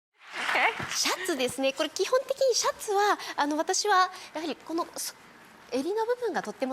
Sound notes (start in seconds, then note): 0.3 audience applauding; 1.2 Marie Kondo speaking Japanese